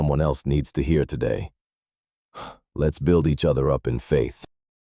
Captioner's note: exhales sharply